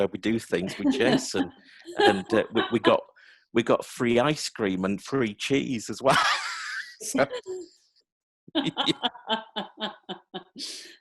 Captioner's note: laughing